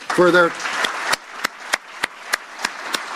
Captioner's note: applause